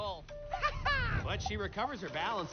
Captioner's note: laughs menacingly